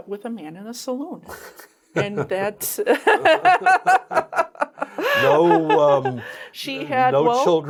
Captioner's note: laughs